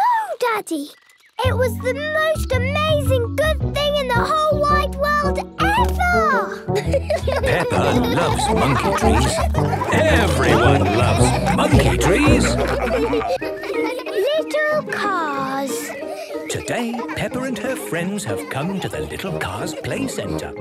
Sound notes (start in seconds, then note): 6.5 laughing; 12.5 all laughing